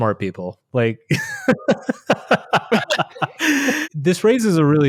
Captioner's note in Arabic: يضحك